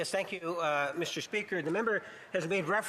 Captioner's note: speaking French